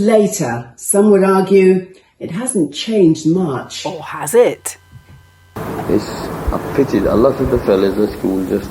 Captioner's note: slowly speaking